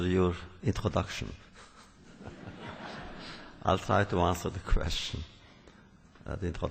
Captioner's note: laughter